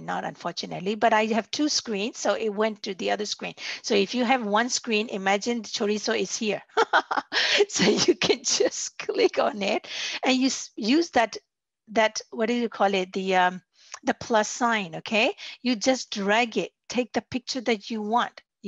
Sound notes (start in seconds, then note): 6.8 laughs